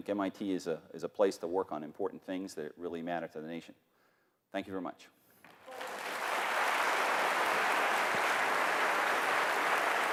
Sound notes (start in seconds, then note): 5.5 applause